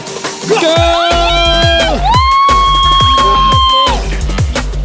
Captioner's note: yelling